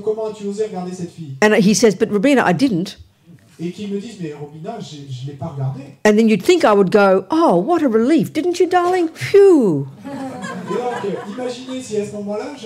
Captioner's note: laughter